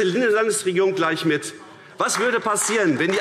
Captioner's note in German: Vereinzelter Beifall AfD